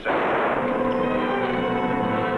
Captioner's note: gun firing; suspenseful music